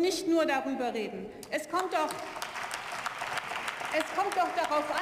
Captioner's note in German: Beifall